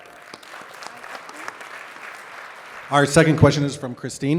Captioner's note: audience applauds